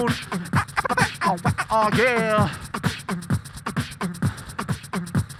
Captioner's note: beatboxer performs